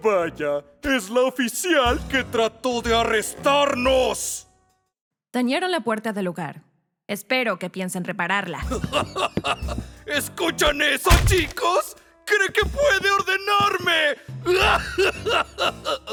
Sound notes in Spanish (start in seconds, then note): 8.6 Risas; 14.7 Bugsy se ríe